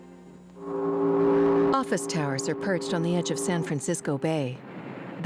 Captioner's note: foghorn blares